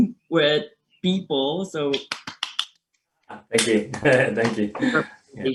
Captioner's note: claps